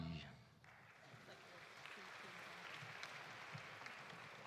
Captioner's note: audience applauding